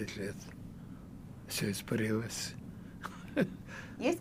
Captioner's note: laughing